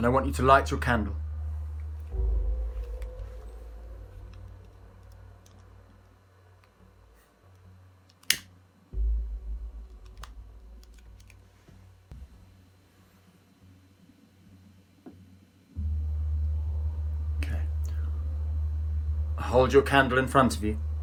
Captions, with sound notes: Then I want you to light your candle. (lighter clicking) (soft eerie music) Okay, hold your candle in front of you.